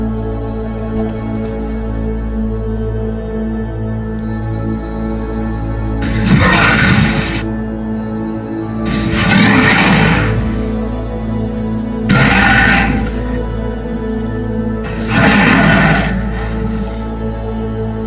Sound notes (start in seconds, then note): 6.1 baryonyx growling